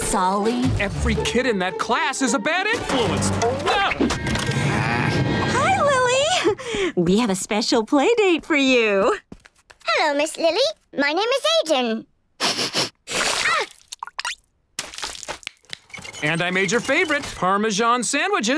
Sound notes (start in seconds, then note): 4.3 groaning; 12.4 sniffing